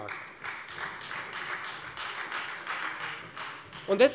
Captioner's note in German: Beifall Freie Demokraten